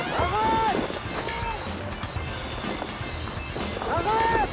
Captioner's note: resident yells